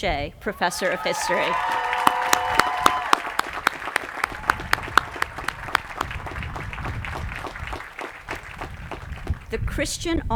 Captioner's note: applause